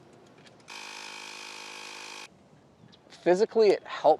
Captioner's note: air pump humming